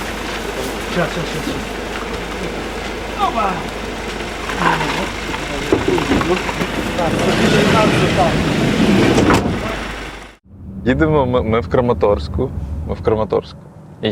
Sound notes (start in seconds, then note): 0.1 engine rumbling; 7.2 door slides and slams